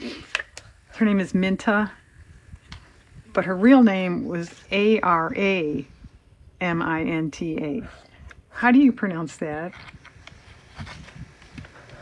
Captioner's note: laughs